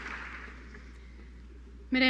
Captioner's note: applause